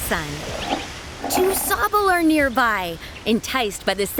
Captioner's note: relaxing roars